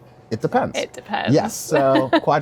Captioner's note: laughs